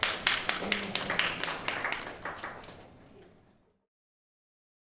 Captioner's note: audience applauding